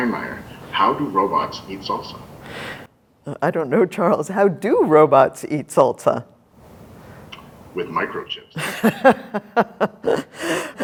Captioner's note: laughter